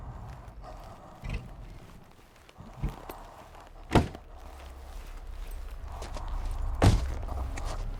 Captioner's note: breathing